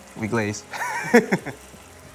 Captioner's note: laughs